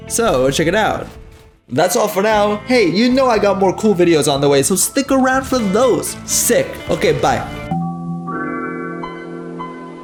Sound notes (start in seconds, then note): 7.7 Windows 95 startup sound